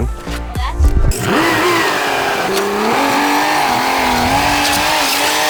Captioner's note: forklift engine revving